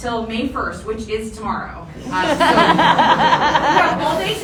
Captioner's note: audience laughter